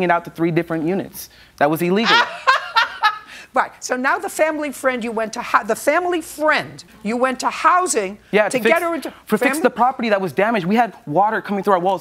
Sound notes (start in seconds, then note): 2.0 laughs